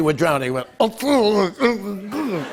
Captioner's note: gurgling; laughter